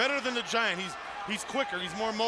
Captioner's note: crowd chatter